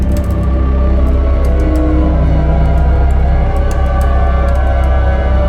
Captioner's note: groaning